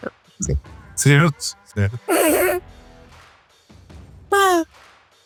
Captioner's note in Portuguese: risos